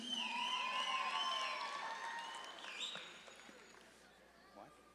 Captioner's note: audience claps and cheers